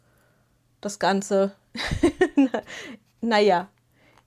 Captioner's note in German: gelächter